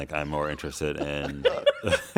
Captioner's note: laughter